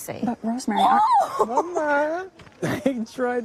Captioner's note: squeals